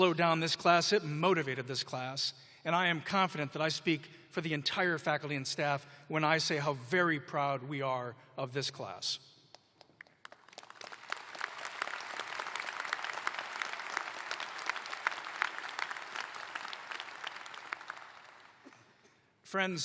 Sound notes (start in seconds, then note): 3.8 applause